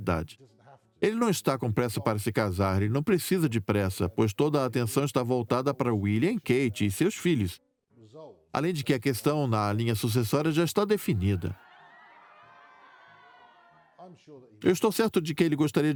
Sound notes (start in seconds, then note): 9.9 crowd laughing